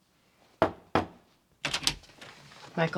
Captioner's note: knocking